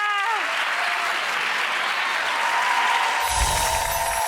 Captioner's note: applause